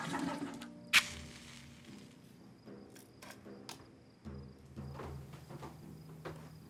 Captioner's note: tense percussion music; match striking